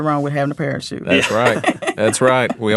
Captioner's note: laughing